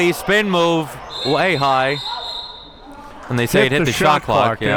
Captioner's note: whistle blowing